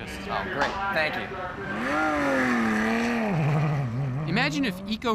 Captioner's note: engine revving